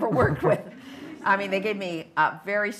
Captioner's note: laughter